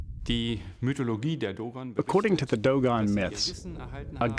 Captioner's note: non-english speech